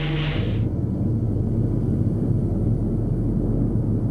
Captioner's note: engines rumbling